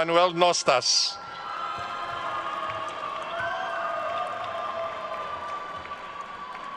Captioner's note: attendees cheering and applauding